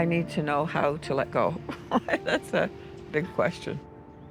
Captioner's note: laughs